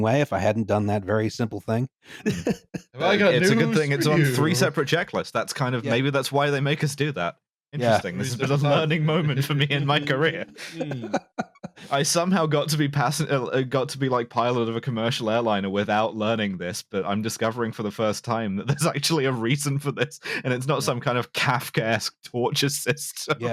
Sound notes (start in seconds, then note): 7.8 chuckles; 11.6 laughs